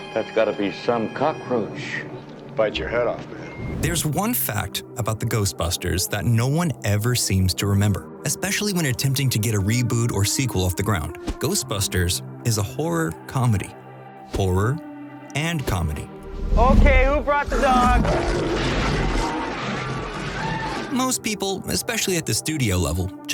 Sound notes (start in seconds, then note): 17.9 screaming